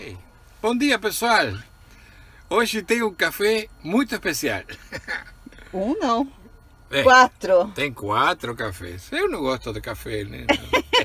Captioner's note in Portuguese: risos